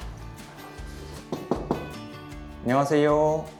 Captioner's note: knock knock knock